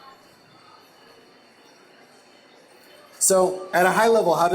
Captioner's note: silence